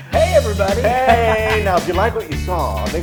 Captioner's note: laugh